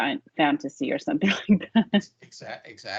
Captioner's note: laughing